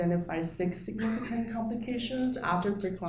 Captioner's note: audience member coughing